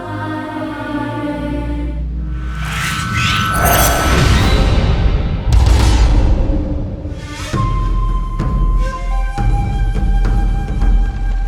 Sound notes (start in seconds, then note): 2.2 amulet swooshing